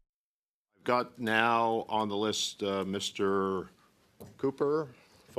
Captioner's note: speaking French